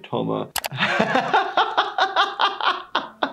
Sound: laughing

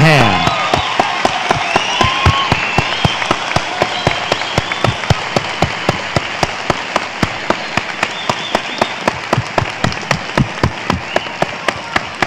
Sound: applause

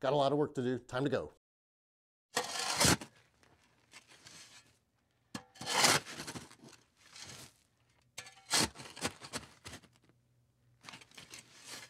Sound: sound of someone shoveling dirt

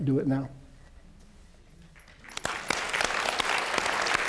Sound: applause

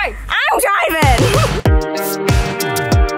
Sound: upbeat music; laughs

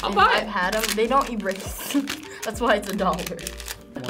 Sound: laughs

